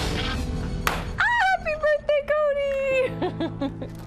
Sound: popper explodes; laughs

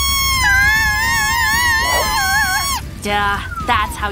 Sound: screaming

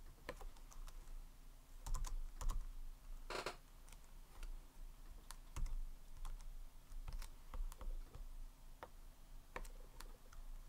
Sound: chair squeeks

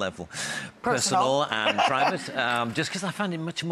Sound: Rachael Ray laughs

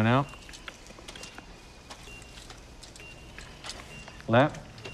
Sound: EKG beeping steadily

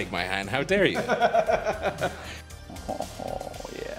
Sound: laughing

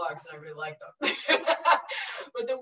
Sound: laughing

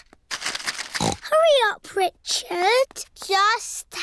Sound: snorts

